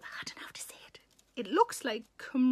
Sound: Sarah whispers

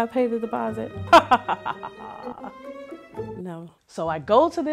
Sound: laughing

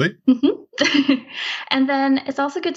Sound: laughs

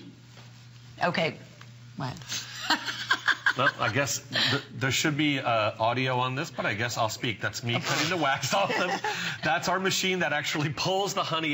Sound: laughter

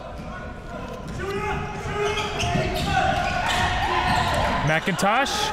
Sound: crowd

